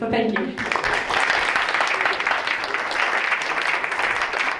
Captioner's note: crowd applauds